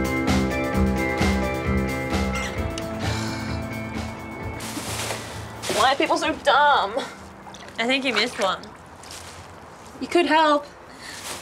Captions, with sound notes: (Saffron makes sound of disgust) - Why are people so dumb? - I think you missed one. - You could help.